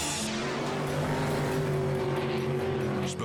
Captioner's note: boat revving